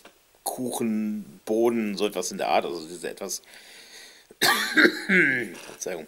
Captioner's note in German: hust